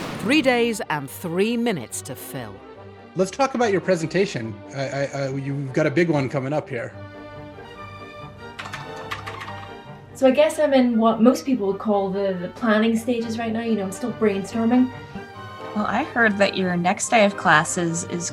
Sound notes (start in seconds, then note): 8.5 keyboard clicks